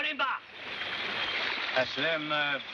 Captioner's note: speaking in foreign language